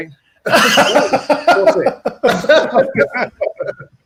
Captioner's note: laughs